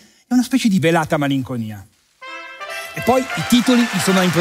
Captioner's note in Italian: squilli di tromba e applausi